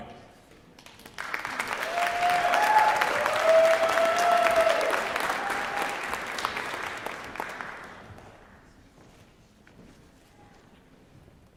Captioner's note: cheering